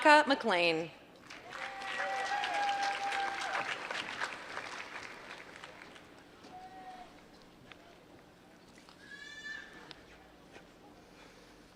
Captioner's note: applause